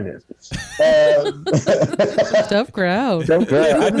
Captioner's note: everyone Laughs